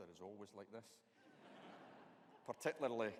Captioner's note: audience laughing